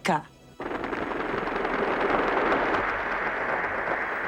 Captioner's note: helicopter buzzing